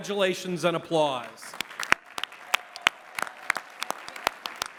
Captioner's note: applause